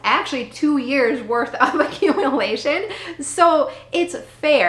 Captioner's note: laughing